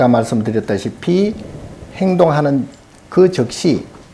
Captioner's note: speaking Korean